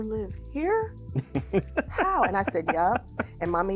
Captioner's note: chuckling